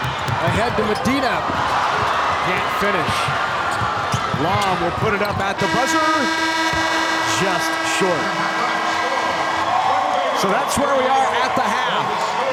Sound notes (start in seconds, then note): 1.1 audience cheers; 5.5 horn blasts